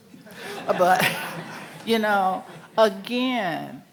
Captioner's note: audience laughing